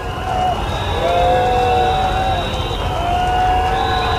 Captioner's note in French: Huées et sifflets